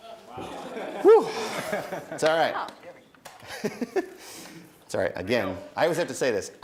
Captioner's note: laughing; laughs